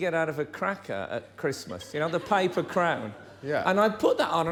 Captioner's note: laughter